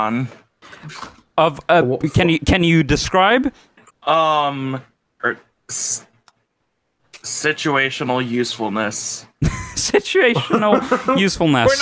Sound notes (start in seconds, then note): 5.8 stutters; 10.4 laughing